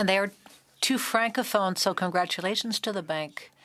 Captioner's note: speaking French